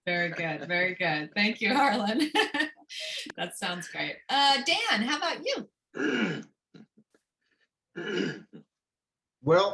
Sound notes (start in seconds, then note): 1.6 laughter